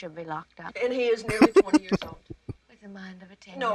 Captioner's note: chuckling